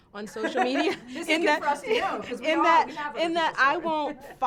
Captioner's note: all laughing